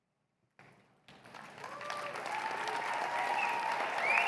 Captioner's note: cheers and applause